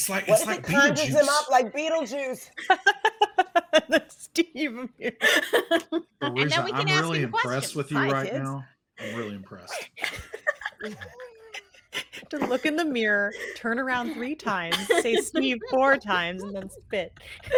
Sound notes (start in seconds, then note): 2.6 laughing; 4.9 laughs; 9.6 all laughing